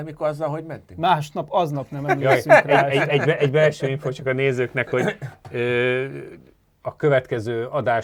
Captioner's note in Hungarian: nevetés